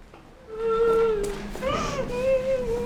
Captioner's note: Nila weeping